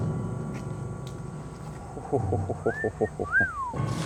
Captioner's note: moye laughs; whistles